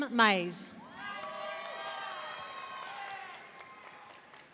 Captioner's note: audience cheering